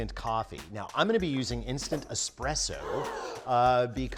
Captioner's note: gasp SFX